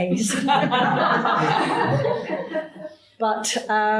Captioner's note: audience laughing